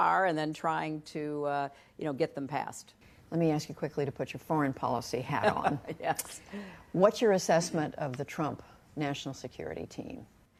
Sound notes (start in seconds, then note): 5.4 laughter